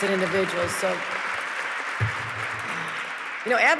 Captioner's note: audience clapping